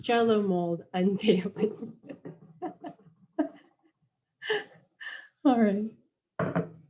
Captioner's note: laughing